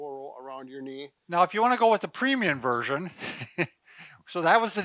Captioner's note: laughs